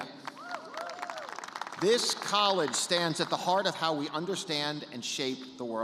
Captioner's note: cheers and applause